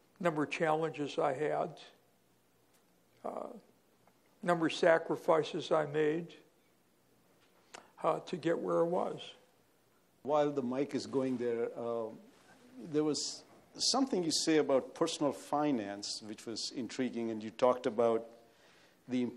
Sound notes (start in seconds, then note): 10.5 voiceover